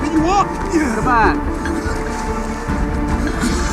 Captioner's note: coughing